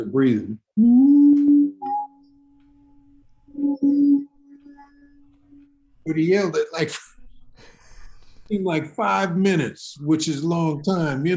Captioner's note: vocalizes